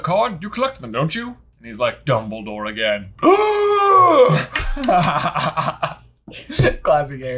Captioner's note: gasps